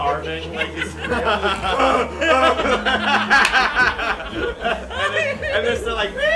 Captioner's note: heavy breathing; laughter